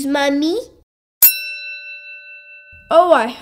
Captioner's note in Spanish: ¡Ding!